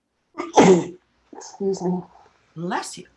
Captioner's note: coughs